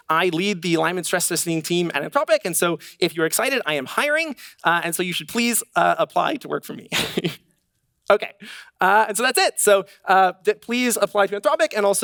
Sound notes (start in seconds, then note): 7.6 laughs